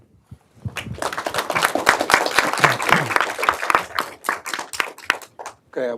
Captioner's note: applause